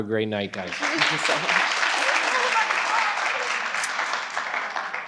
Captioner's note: participants applaud